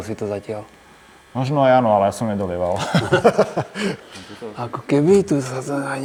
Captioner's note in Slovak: smiech